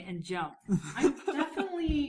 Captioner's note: laughing